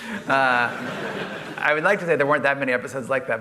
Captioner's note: laughter